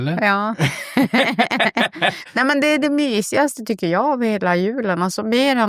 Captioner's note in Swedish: skratt